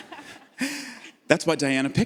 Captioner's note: audience laughs